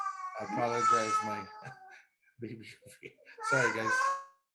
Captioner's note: chuckling